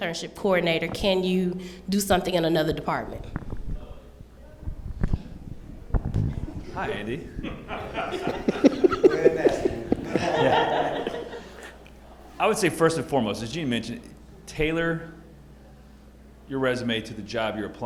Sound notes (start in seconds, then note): 4.6 chatter and Laughter